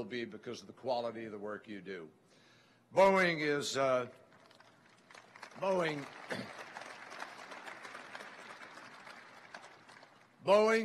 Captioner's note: applause